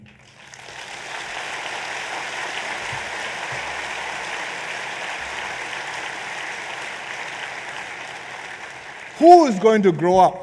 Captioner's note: applause